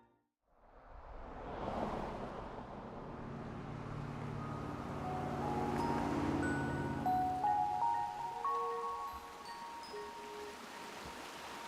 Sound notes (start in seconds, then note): 0.6 car whooshes; 2.0 car engine rumbles; 7.2 percussion chime music; 7.2 stream gurgles